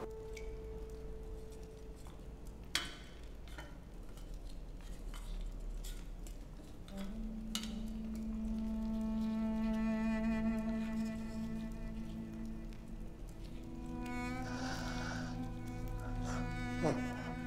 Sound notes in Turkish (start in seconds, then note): 7.9 Müzik - Dram; 14.4 Nefes sesi